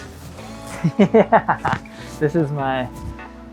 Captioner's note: laughs